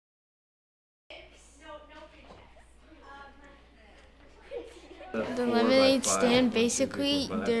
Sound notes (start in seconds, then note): 1.2 classroom chatter